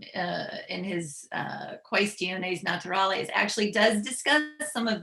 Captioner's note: speaking latin